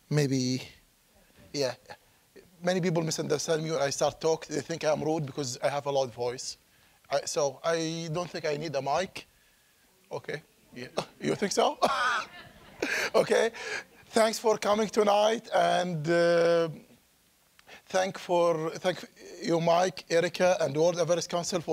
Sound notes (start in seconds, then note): 10.8 laughing; 11.7 audience chuckling